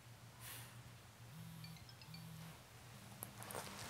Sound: cell phone : vibration and message jingle

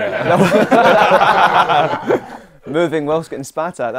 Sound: people laughing

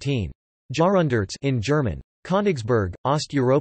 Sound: in German

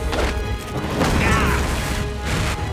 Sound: groaning

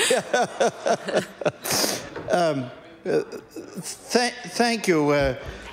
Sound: laughter

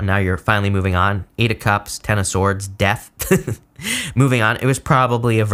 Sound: laughs

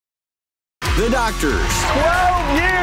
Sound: crowd applauding; cheering

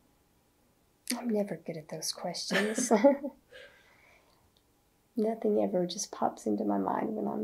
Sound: laughter

